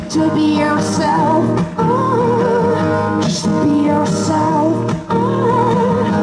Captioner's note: none